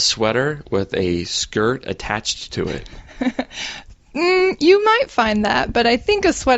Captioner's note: laughs